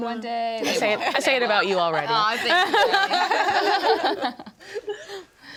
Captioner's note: group laughs